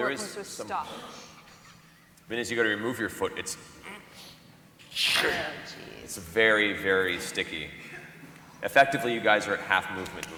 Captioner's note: sucking sound